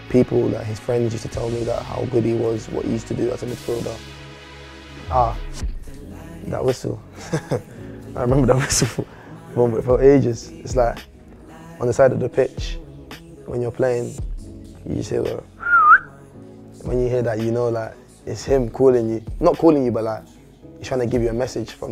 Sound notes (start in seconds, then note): 15.6 whistles